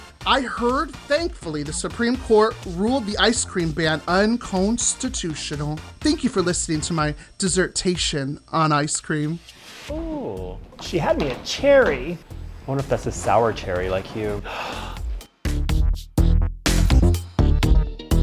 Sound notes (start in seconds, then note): 14.4 Cherry gasping; 15.5 techno music